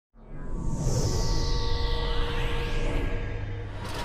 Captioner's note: whooshes